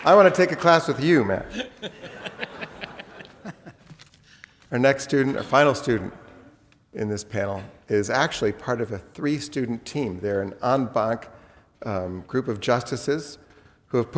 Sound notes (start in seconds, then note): 1.3 laughs